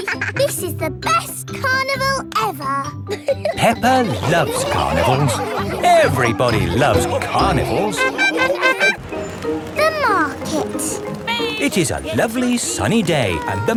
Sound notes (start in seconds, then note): 0.1 both giggling; 8.4 laughing